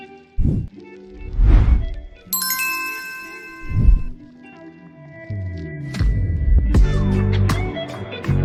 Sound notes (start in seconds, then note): 1.2 logo whooshes; 2.3 logo chimes